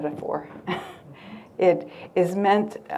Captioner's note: chuckles